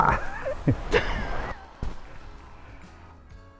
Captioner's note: laughs; upbeat music